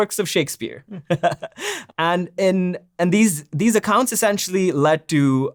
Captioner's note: laughs